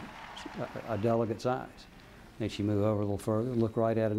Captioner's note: applause